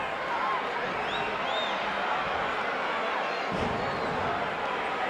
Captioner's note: audience chattering